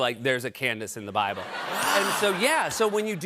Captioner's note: laughter